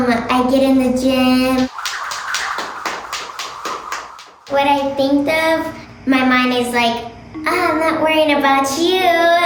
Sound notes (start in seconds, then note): 1.6 jump rope whooshes